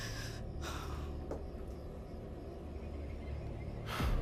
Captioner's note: Evelyn gasps